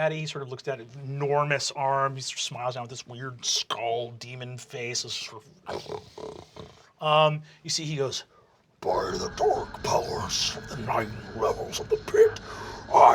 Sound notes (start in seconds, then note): 5.6 snarls